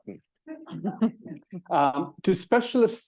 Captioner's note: audience chuckling